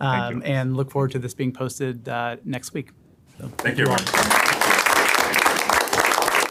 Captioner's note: applause